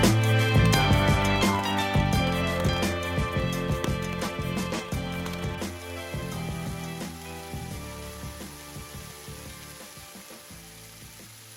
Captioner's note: hail and Snow Falling